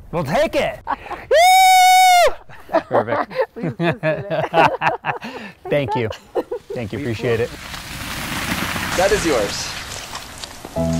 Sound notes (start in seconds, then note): 3.7 both laughing